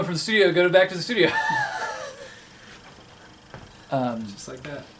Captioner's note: laughing